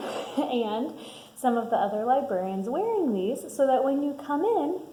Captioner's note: laughs